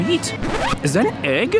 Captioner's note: record scratch